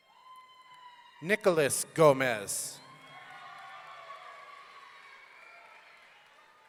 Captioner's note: audience cheering